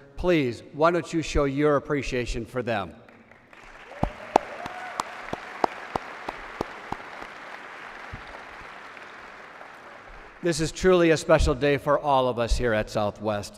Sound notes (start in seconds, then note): 3.0 applause